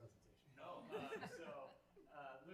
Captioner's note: everyone laughing